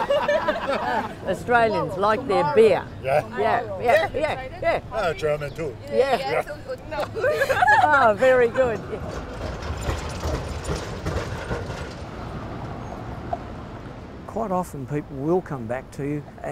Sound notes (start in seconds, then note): 0.0 laughing; 7.0 laughing